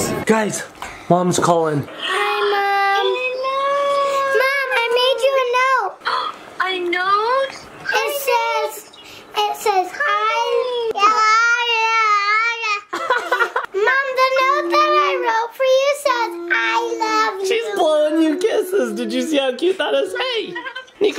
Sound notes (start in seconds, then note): 3.8 gasps; 6.9 gasps; 12.9 laughs